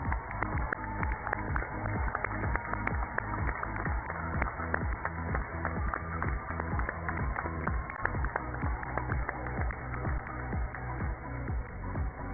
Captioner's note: cheers and applause